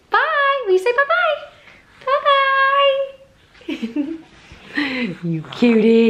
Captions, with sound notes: Bye, we say bye-bye. Bye-bye! (chuckles) You cutie.